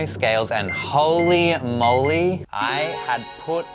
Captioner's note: scale beeps